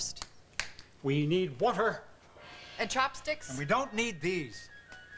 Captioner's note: snaps fingers